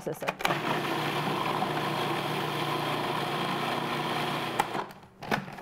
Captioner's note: food processor whirling